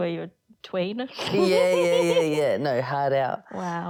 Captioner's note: laughter